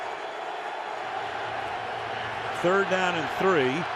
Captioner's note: crowd cheering